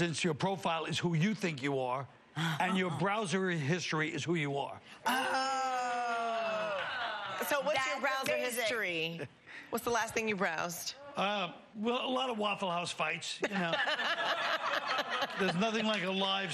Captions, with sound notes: And then your social media presence, your profile is who you think you are and your browser history is who you are. [audience exclaims] So what's your browser history? What's the last thing you browsed? Well, a lot of Waffle House fights, you know. [audience laughing]